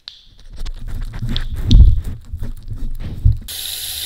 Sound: lick lick lick lick lick lick lick lick lick lick lick lick

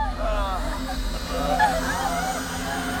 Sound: screems

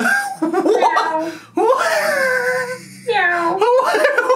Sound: laughs

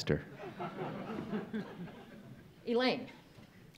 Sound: audience laughs

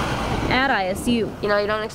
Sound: nat pop of isu bus

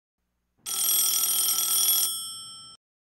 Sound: phone's ringing

